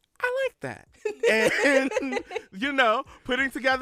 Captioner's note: laughter